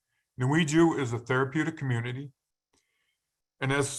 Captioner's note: speaking in foreign language